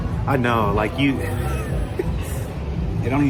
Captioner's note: chuckling